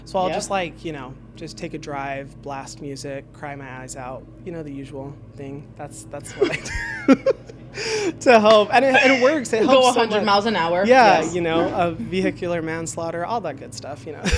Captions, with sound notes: so I'll just take a drive, blast music, cry my eyes out, the usual thing that's what I do (laughs) to help and it works. It helps so much. - Go a hundred miles an hour. - Of vehicular manslaughter, all that good stuff.